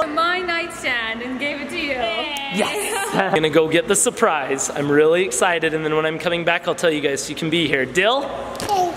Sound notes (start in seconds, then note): 2.1 laughs